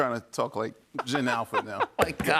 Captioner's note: laughs